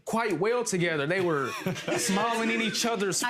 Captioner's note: audience laughs